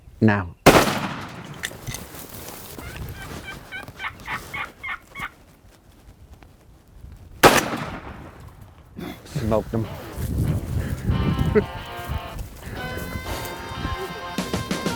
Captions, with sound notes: Now. (gunshots) (turkey calling) (gunshot) Smoked him. (energetic music playing)